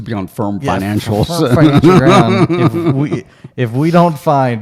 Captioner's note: laughing